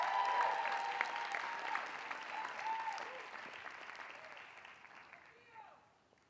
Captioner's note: applause